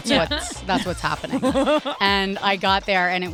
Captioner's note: laugh